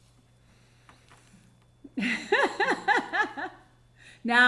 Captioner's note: laughing